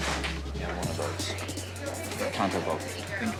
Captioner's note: overlapping chatter